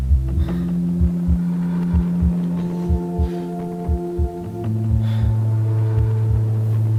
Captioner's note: heavy breathing; quickened heartbeat slowing back down to normal